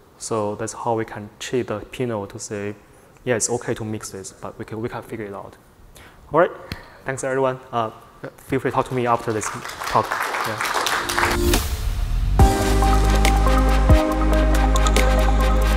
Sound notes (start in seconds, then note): 10.3 audience clapping; 12.4 bright upbeat music